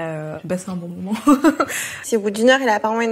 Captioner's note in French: rires